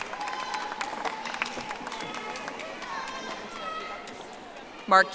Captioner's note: audience applauding